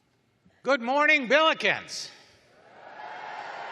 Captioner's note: cheering